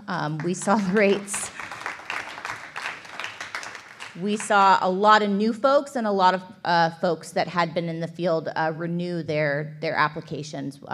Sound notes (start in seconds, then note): 0.2 applause